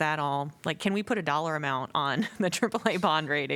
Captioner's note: laughter